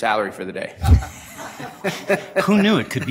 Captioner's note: laughter